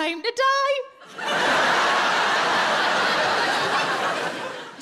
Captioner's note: audience laughing